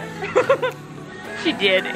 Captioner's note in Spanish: se ríe